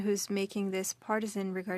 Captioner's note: speaking French